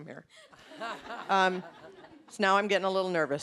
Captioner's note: audience laughing